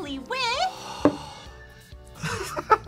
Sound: sighs; both laugh

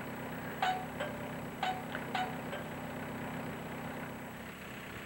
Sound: Carillon de la porte

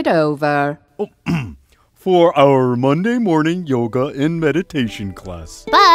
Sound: coughs

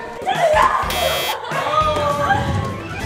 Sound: cheering; buzz; laughing

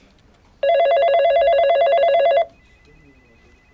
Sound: phone rings

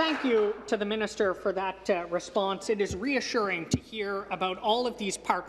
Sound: some Applause

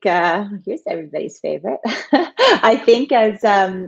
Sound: laughs

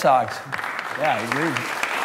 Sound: applause

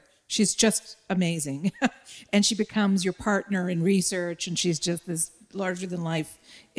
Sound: chuckle

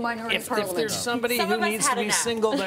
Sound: laughter

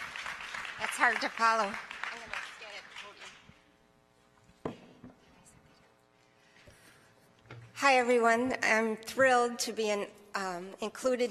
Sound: applause

